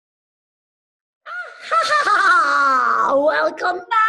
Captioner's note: cackles